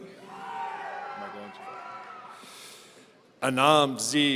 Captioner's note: audience cheering